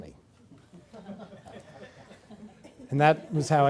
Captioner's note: laughter